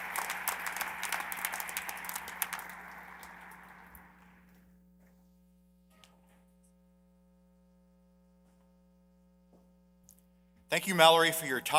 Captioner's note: applause